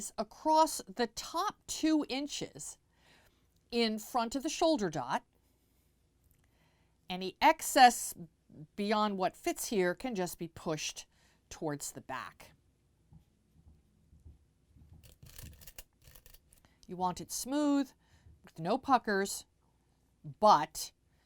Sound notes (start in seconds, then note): 16.0 pin Sounds